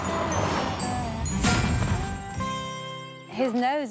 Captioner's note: light music playing; thuds